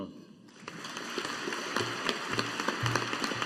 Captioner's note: audience applauding